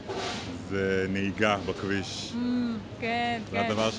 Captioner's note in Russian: машины